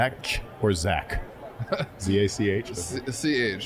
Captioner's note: laughing